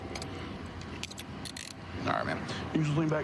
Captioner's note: handcuff closing